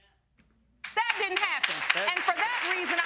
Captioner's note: audience clapping